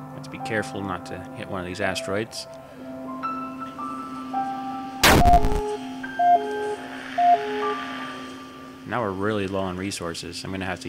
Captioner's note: siren noise